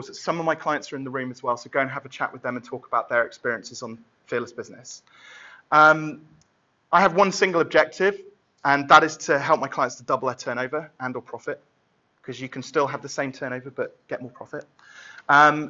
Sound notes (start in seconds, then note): none